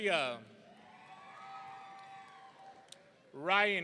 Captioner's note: audience cheering